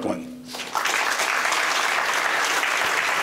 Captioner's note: applause